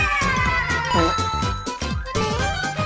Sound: fart

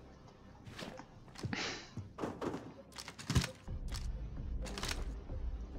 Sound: none

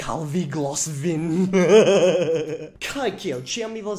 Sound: evil laugh

